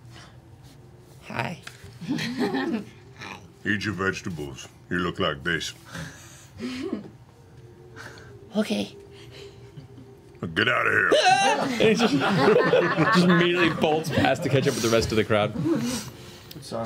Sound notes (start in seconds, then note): 11.0 yells; 11.1 all laugh